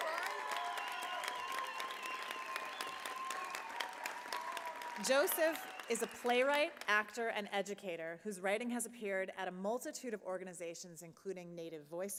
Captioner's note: applause